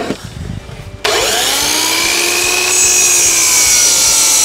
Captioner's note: saw buzzing